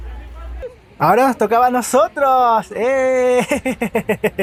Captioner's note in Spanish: risas